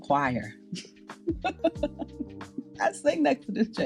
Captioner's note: laughs